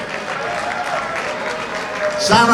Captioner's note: audience applauds